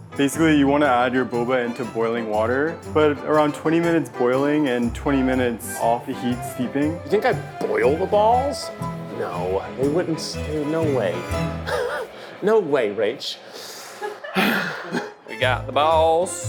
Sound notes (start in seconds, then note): 11.6 laughs; 14.0 laughs; 14.3 Keith sighs